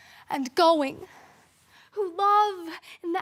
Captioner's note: soft breathing